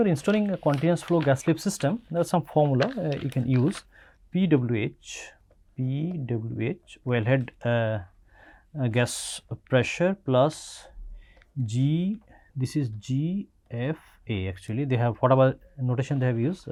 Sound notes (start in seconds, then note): 8.3 pwf